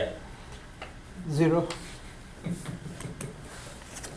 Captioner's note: voiceover